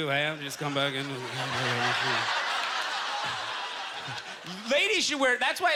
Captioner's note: audience laughter